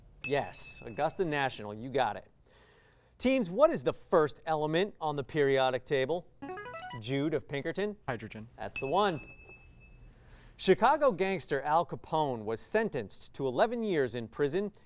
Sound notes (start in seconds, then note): 6.4 signaling device tone; 8.8 ding